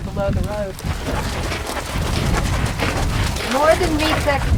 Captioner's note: horses moving